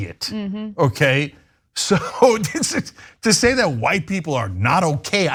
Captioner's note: laugh